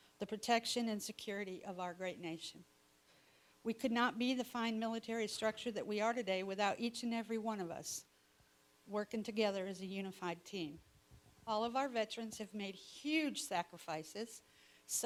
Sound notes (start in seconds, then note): none